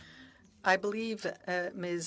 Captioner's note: speaking French